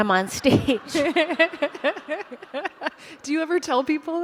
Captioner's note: laughter